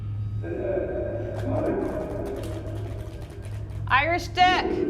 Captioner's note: low echoing sound